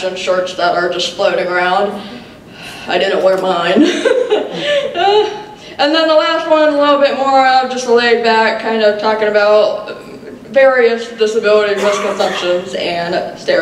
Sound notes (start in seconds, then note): 3.8 laughs